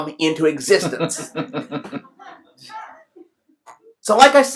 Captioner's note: laughs